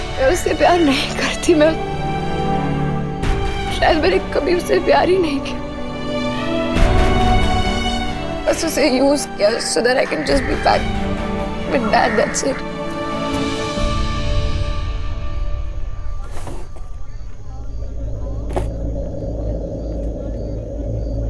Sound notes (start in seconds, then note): 16.3 drawer opens; 18.5 drawer closes